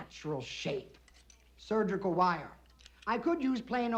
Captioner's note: wire scraping